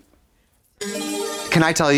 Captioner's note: bright chime